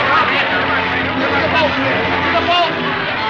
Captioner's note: shouting